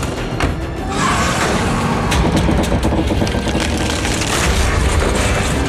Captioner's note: guns firing; car tires screeching; engines revving; concrete cracking